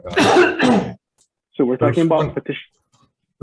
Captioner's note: man coughs